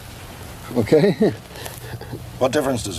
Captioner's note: chuckling